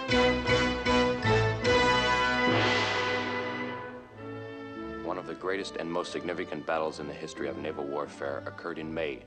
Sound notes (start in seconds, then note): 4.8 narrator reading